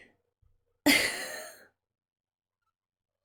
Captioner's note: laughs